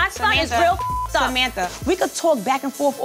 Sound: beep

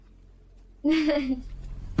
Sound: laughs

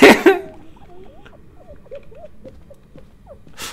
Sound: laughter; hyena laughter

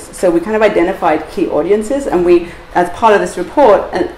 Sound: none

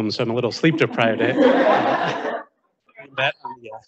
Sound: audience laughing

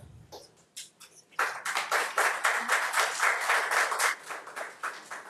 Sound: audience applauding

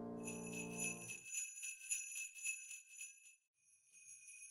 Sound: bells jingling

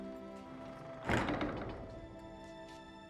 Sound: door closes

